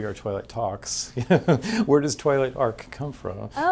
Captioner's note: chuckles